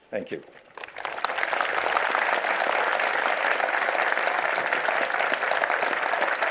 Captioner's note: applause